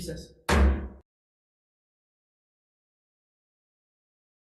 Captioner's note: hammer thuds